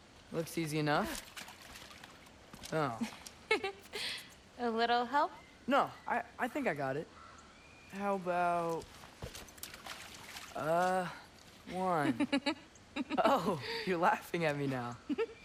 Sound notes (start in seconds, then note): 3.4 laughs; 12.9 laughing